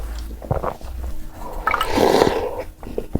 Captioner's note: slurping